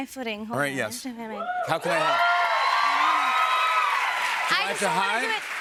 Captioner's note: cheers and applause